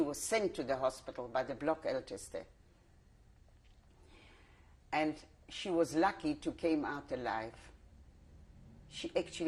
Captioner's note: pauses for 3 seconds